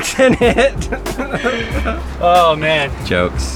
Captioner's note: laughing